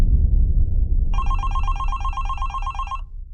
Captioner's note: phone Ringing